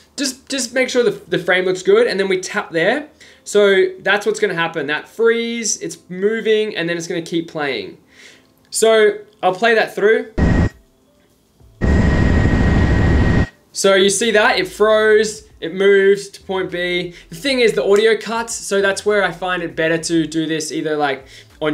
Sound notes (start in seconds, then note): 11.8 plane engine roaring